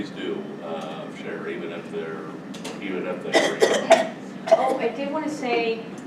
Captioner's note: coughing